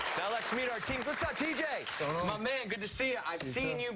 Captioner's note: cheers and applause